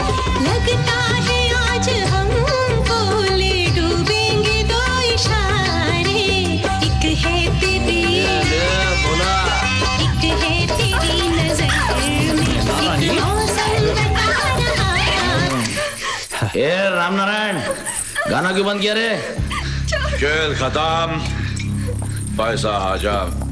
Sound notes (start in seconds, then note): 15.5 Tape stops